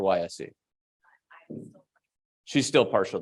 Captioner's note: faintly speaking